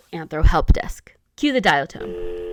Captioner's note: cue the dial tone